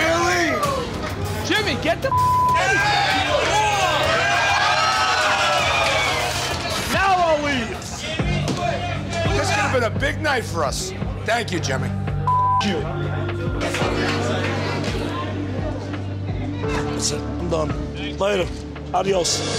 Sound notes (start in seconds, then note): 2.1 beep; 2.4 crowd cheering; 12.2 beep; 14.3 somber music